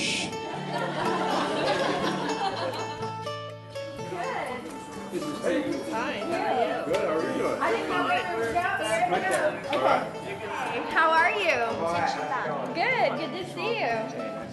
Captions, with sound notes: (laughter) - Good. - Fine, how are you? - Good, how are you doing? (friendly chatter continues) - Hey, how are you? Good, good to see you.